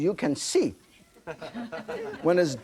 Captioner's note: audience laughing